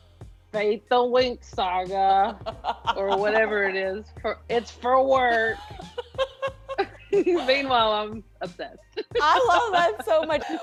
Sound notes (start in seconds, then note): 2.3 laughing; 5.2 both laughing